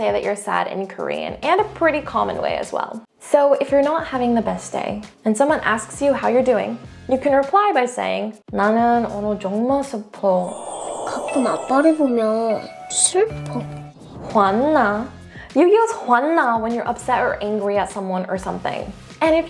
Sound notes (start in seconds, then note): 9.0 speaks in Korean; 10.4 enchanting music; 10.5 character speaks in Korean; 13.3 fast-paced transition music; 14.0 speaking in Korean; 15.7 speaks in Korean